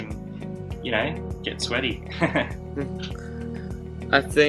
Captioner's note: laughs